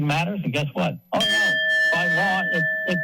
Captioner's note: bell rings